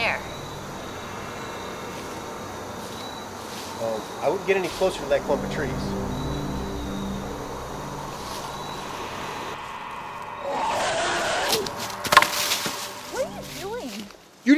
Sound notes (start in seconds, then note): 8.4 roar; 8.4 thump